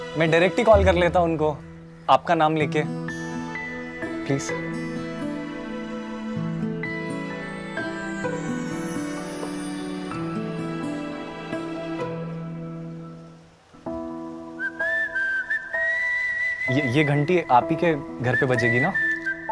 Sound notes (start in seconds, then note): 14.5 Whistling